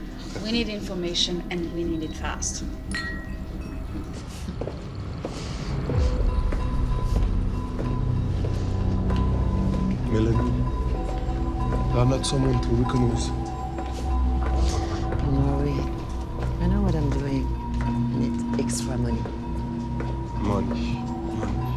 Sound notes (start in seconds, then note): 9.5 speaking french